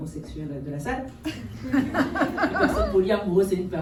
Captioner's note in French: rires